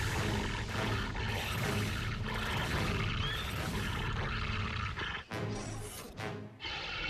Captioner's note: snarling